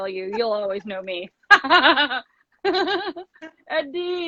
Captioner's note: laughs